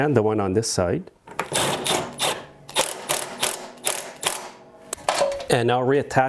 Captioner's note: impact wrench whirring